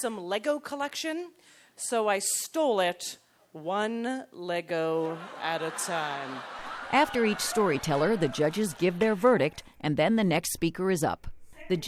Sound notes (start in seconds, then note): 5.0 audience laughter